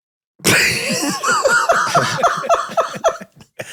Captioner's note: Glenn laughs